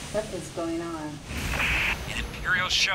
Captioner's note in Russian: шум в передатчике